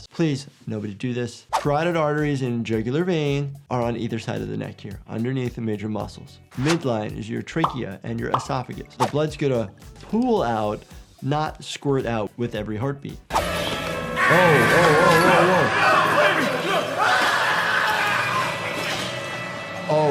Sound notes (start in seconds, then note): 13.3 eerie music; 14.1 Miles Upshur screaming